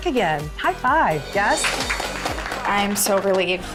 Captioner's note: cheerleaders applauding